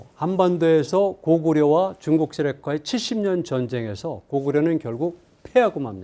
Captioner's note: speaking in Korean